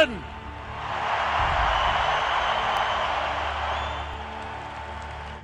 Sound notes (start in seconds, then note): 0.4 crowd cheering and applauding